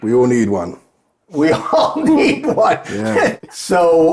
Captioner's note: chuckling